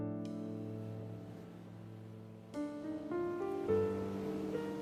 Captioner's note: waves swooshing